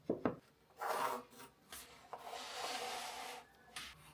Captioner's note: pen scraping